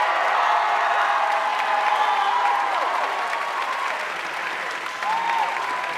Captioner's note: audience cheering and applauding